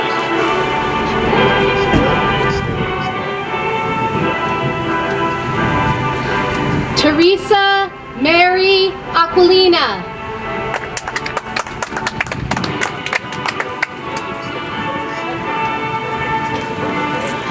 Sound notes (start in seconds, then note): 10.6 audience applauds; 15.0 soft music